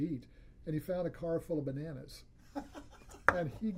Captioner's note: laughs